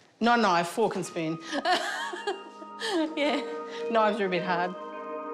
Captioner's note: laughs